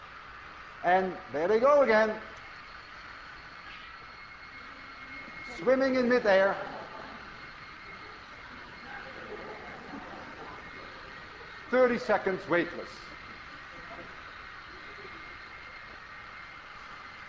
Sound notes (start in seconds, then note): 6.4 class laughs